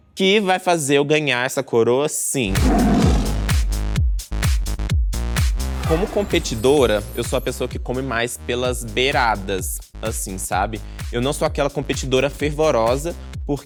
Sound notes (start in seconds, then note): 2.4 roar; 4.0 electronic music